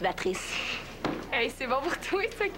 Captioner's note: Rire